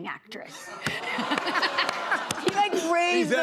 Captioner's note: laughter